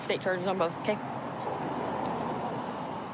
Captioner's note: vehicles driving